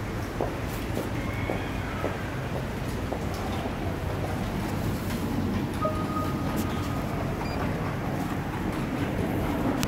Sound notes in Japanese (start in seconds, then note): 5.8 商品選択音